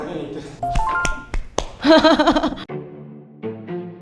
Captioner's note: applause